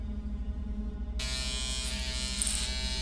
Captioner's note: buzzing